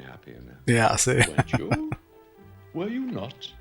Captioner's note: laughing